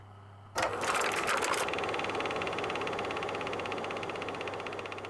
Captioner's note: film reel rattling